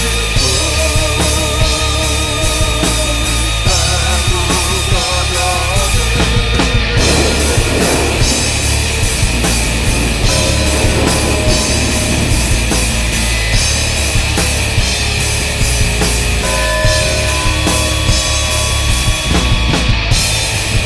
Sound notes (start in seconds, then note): 6.8 thunderclap; 9.7 funeral bells